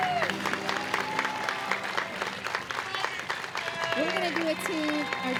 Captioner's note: audience cheers and applauds